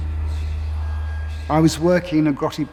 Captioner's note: ominous whispers